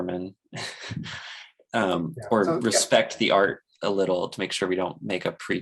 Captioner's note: chuckles